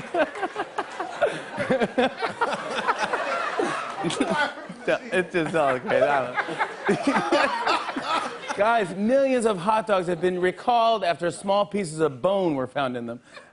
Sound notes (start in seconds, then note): 0.2 laughs; 5.2 laughter